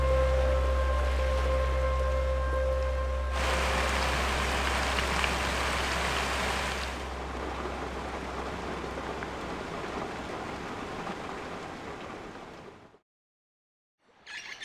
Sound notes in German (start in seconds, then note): 4.2 Regenprasseln